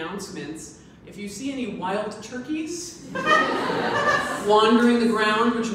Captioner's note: audience laughs